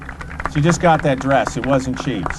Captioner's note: applause